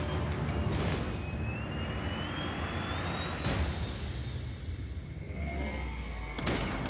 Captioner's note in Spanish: ruido del vehículo